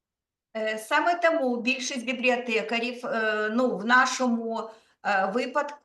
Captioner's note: speaking Ukrainian